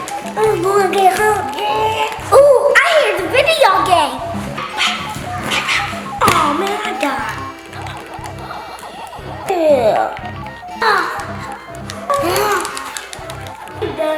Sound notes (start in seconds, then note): 0.1 ZZ Kid mumbling; 4.5 cartoony blooping; 7.9 cartoony blooping; 10.8 Googoo Gaga sighing